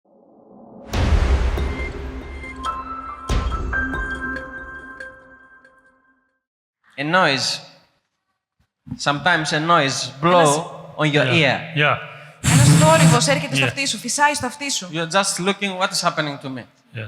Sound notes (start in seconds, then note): 12.4 humming